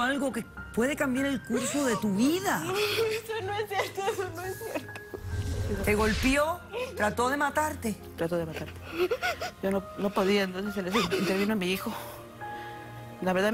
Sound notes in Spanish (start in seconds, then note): 5.6 Sollozos